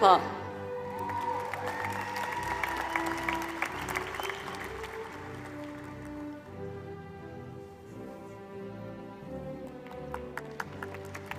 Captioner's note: applause